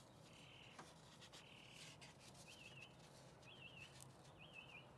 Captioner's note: birds chirping